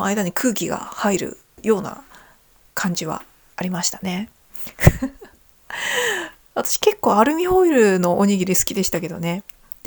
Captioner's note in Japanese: 笑い